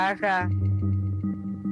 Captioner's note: speaking in a non-english language